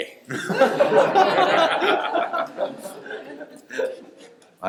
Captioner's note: laughter